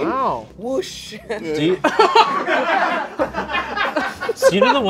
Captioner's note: people laughing